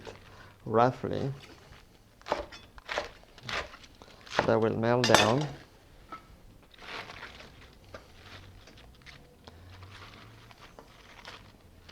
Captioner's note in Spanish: sonido cortando